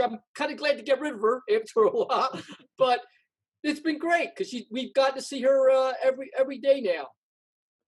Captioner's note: laughs